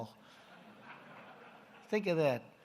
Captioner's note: laughter